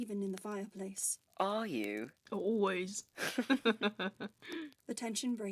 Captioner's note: they both laugh